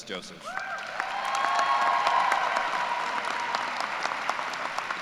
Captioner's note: cheers and applause